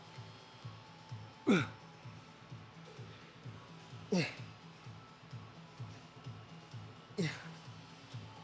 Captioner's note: grunting